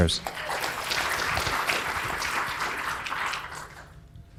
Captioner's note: audience applauds